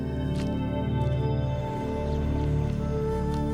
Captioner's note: chimes